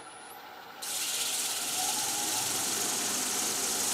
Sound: high grinding noise

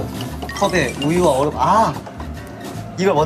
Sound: stirs quickly

